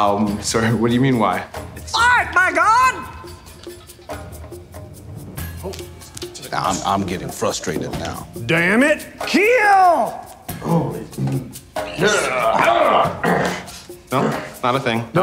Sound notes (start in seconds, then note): 3.4 rhythmic drumming playing; 11.8 men grunting